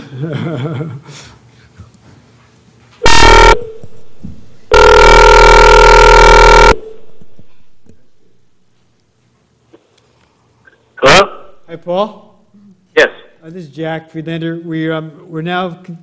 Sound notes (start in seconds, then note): 3.1 laugh